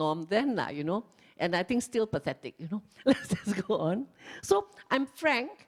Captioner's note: laughs